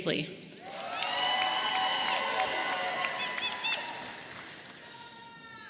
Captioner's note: audience applauding and cheering